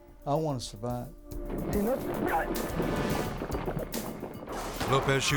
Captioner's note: speaking in Spanish